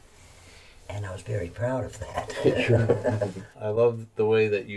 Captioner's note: laughs